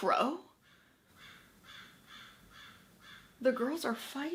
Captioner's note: crow cawing